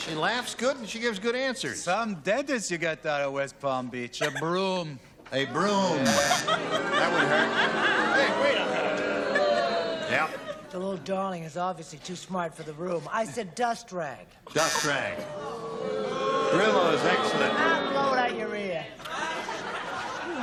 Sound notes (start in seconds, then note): 6.0 buzzing; 8.1 booing; 14.3 buzzing